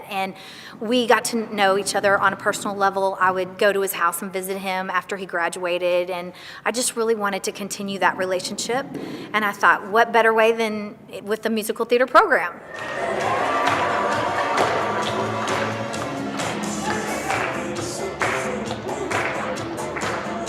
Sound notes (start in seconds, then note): 12.7 crowd clapping along